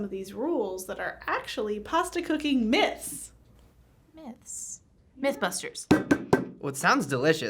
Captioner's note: bangs desk